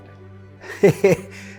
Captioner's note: chuckles